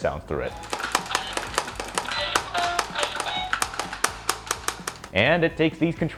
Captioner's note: Guitar Hero miss sounds play through the Wii Remote speaker